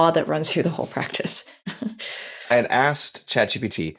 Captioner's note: laughs